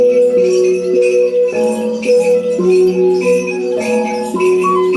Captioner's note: bell